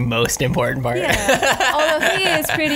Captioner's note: laughs